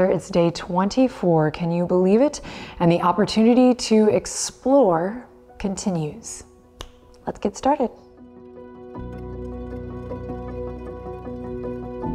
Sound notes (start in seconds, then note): 6.8 snaps; 8.7 light music